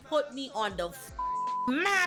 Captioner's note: beep